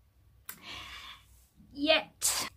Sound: takes a deep breath

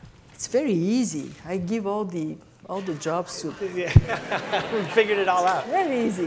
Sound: laughter

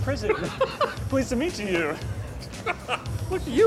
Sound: laughs

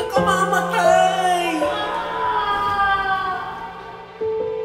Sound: wails

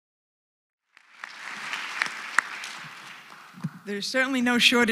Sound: applause

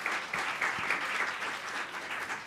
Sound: applause

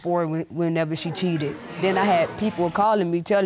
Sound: audience murmuring

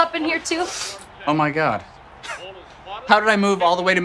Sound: laughs softly

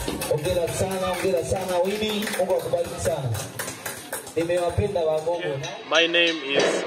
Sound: applause

